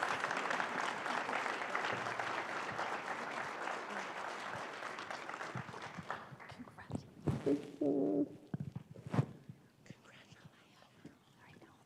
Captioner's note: applause